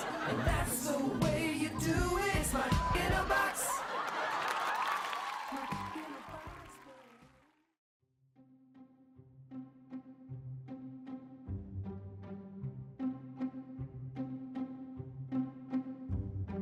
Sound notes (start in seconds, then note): 3.1 beep; 4.0 audience laughing and cheering; 9.4 dramatic music